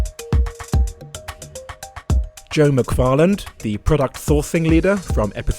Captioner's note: voiceover